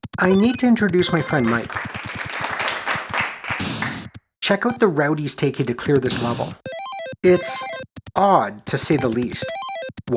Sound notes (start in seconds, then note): 1.1 scattered, polite applause